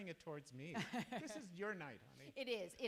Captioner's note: chuckles